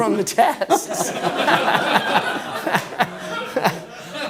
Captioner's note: laughing